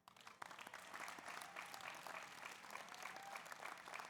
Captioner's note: audience applauds